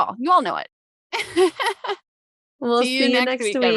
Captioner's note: laughing